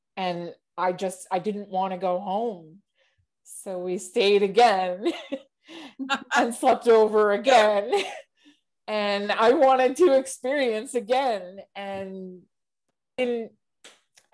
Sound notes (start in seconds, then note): 5.9 chuckles